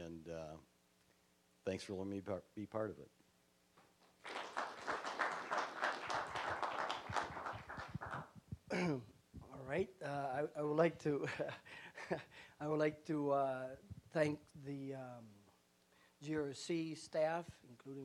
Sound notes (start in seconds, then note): 4.0 applause; 11.2 chuckling